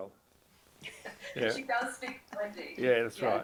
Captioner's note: laughs